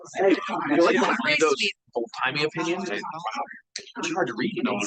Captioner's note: audience chattering continues